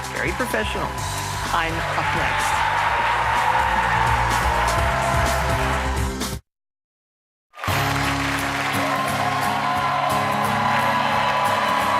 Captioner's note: cheers and applause